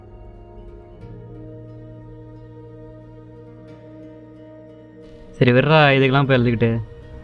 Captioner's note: crying